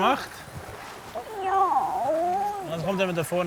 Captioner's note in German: Jammernd